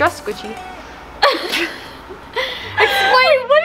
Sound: both giggle

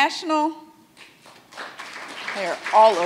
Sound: audience applauds

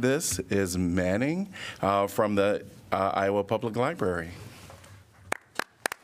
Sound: applause

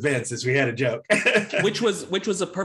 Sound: laughs

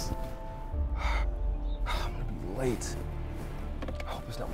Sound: groans; sighs

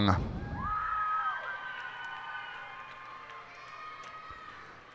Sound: cheers and applause

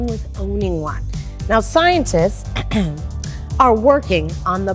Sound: clears throat

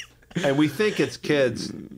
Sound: laughter

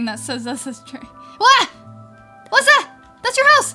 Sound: exclaiming

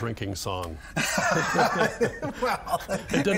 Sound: both laughing

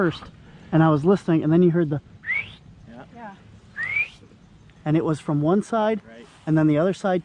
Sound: whistles

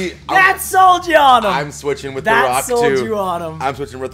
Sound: laugh

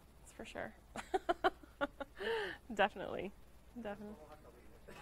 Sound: laughing

